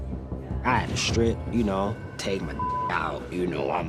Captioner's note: beep